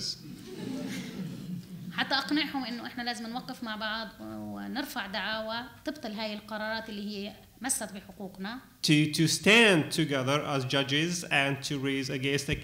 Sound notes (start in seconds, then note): 0.2 laughter; 1.7 speaking arabic